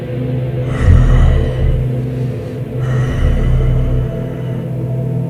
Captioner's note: heavy breathing